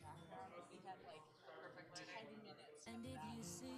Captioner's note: singing; chatter; singing